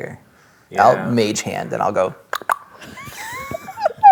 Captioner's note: clicks tongue; players laughing